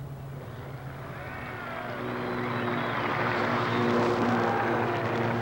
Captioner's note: crowd cheering and applauding